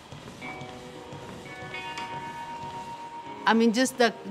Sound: footsteps thumping; gentle sultry music

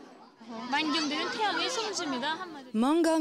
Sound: speaks foreign language

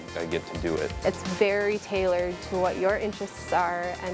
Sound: voiceover

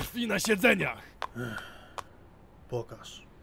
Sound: sigh

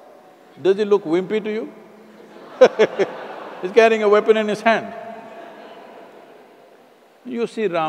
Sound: laughter

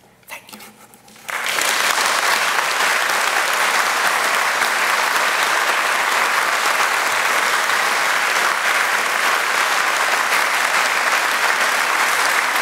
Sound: applause

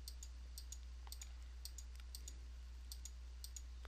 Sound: clicking

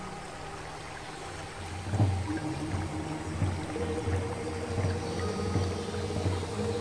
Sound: river babbling; pensive music continues

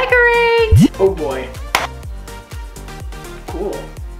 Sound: claps

